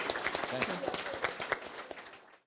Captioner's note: applause